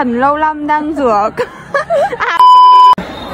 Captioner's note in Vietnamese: cười